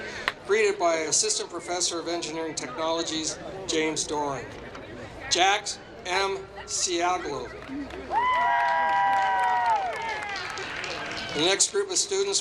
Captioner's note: applause